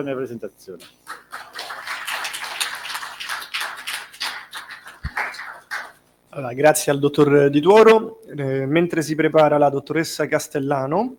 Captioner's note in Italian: Applauso